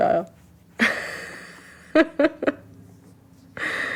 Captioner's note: laughing